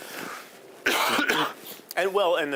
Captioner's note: coughing